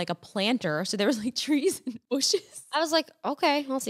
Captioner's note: laughs